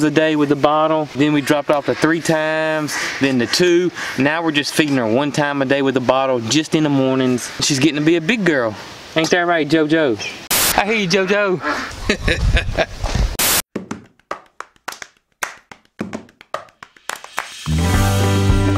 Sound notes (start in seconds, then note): 11.1 laughs